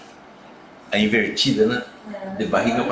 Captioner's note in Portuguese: murmúrio de afirmação